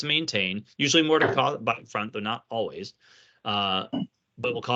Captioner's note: audio skips